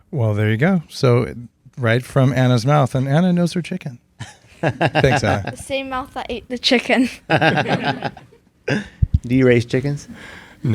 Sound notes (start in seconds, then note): 4.2 laughs; 7.2 all laughing